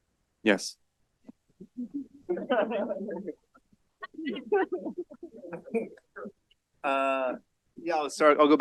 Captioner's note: laughter